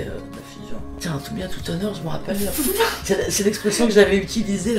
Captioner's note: laughs